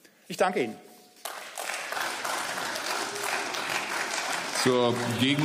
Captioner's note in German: Beifall